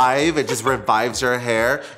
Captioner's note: giggles